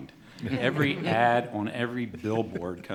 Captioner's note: laughter